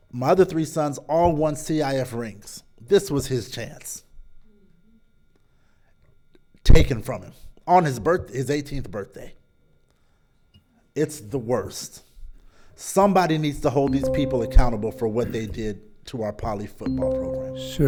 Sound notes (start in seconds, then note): 13.9 bell dinging